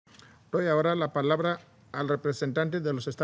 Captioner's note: in Spanish